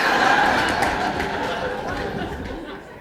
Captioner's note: laughter